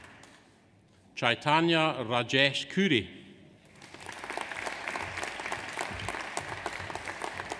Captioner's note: audience applauds